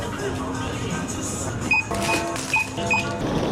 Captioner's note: self service till beeps